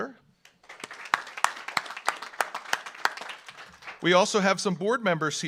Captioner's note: audience applauds